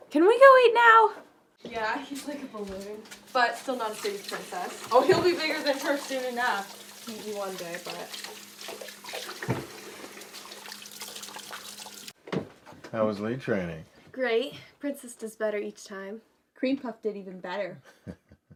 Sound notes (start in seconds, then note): 5.4 water babbling; 17.9 laughing